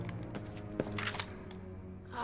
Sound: gun cocking

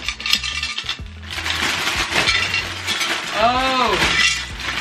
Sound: paper crumbling

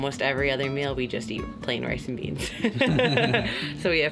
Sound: laughs

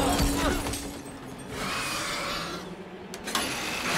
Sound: screeching

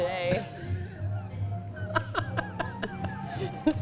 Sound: laughs

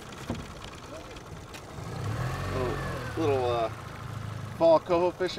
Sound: engine running

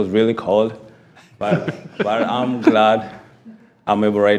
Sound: attendees chuckling

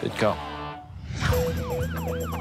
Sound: siren blaring

